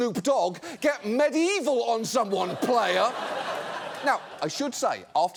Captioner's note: audience laughs